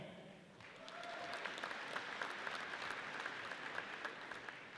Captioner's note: audience applauds